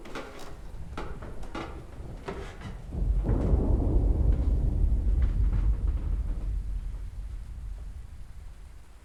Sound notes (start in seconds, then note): 2.6 thunder rolling